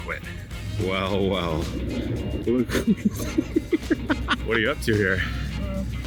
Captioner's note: laughing